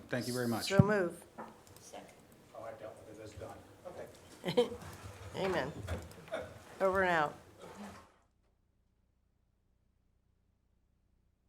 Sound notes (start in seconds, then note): 5.8 laughs; 5.8 laughter